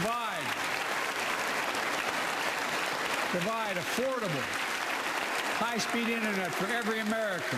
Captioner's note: applause